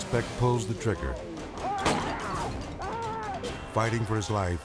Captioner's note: screaming